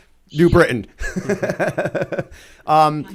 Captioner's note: laughter